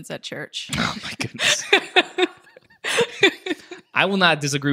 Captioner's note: chuckles